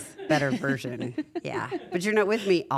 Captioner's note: laugh